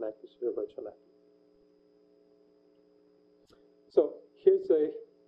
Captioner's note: pause